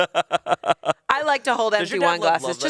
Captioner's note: laughs